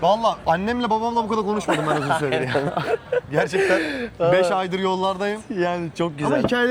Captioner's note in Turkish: kahkaha